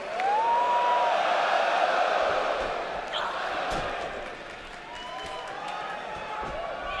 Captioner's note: cheers and applause